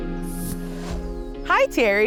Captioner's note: graphics whooshing